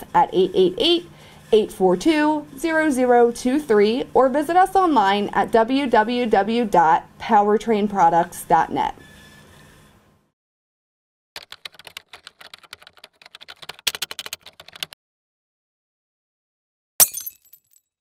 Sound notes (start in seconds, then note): 11.3 typing sound; 17.0 glass breaking